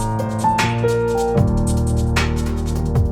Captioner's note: none